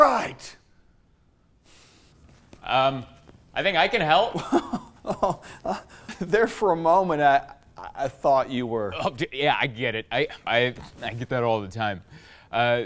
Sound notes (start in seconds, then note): 4.4 laughs